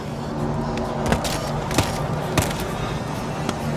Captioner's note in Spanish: Pasos animatrónicos